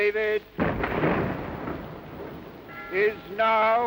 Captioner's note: cannon booming